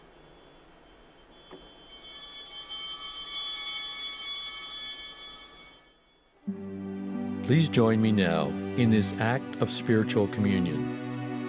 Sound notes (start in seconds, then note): 1.6 bell ringing